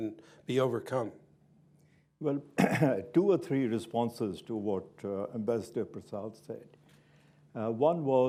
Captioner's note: chuckles